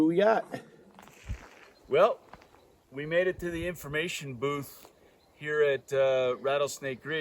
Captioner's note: birds singing